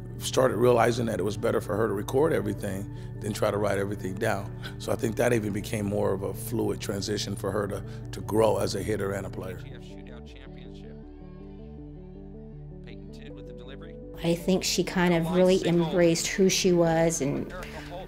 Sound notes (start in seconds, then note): 10.0 announcer calling play on the field